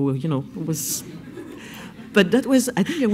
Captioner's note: laughs